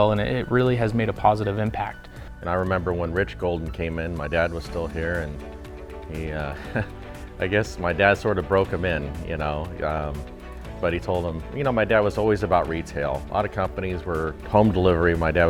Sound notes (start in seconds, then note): 6.4 chuckles